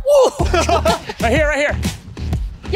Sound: laughter

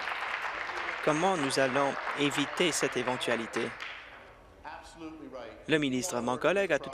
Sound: applause

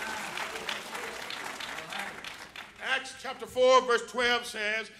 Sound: applause

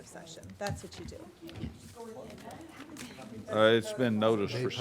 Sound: board members chattering

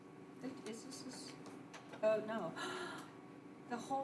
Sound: gasps

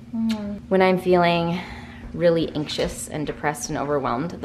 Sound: kissing; sighs

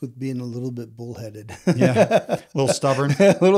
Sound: laughs

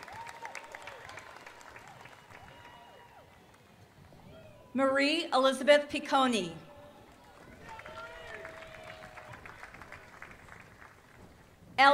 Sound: applause

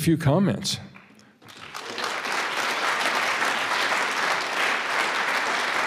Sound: audience applauds

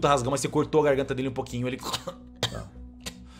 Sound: coughs

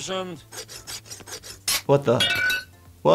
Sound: metal sawing sounds; metal clanking

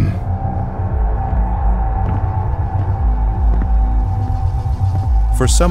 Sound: heavy foosteps and intensifyingly ominous music

